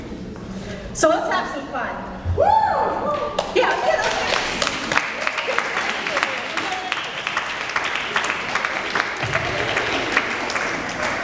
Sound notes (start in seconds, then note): 2.6 audience cheers; 4.8 applause